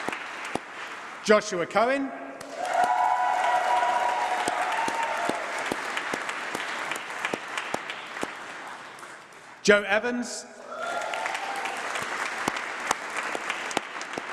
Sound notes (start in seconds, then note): 2.5 applause